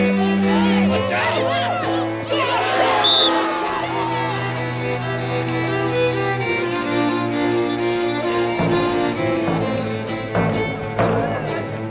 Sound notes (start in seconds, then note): 2.2 cheering; 2.3 whistle